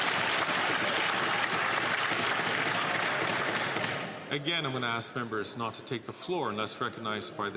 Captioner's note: some Applause